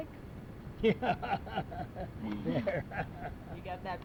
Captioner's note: laughs